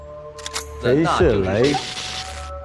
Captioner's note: electroshock